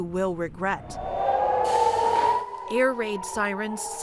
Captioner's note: sirens blaring